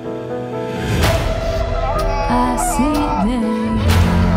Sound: moaning

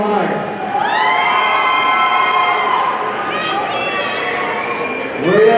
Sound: audience cheering

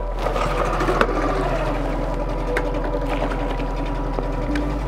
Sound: boat engine starting

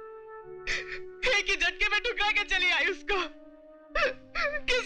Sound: crying

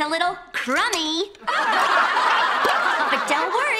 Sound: laughing

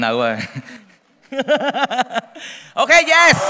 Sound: laughter

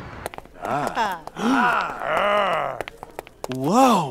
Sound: grunting

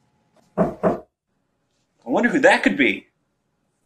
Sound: knock on door

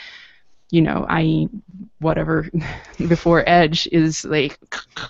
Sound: gagging

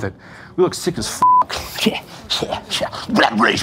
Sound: beeping

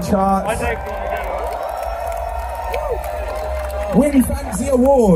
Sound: cheering

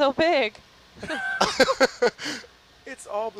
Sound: laughing

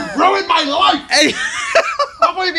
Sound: breaks into laughter

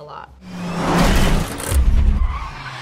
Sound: cars crunching together; tires screeching

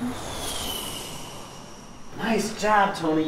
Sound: plane engine revving

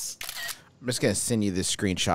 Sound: camera shutter noise

